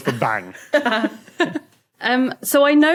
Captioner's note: giggle